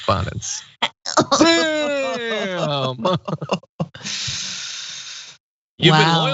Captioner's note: laugh